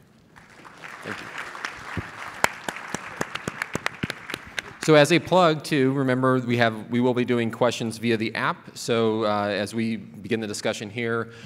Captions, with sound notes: Thank-you. (clapping) So as a plug to remember we will be doing question via the app, so as we begin the discussion here,